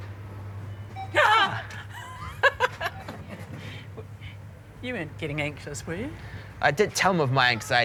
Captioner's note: shouts, then laughs